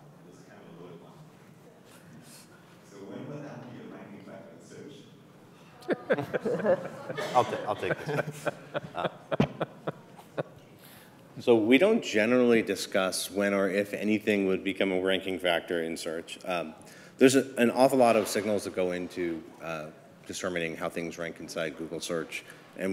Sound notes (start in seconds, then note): 5.8 laughter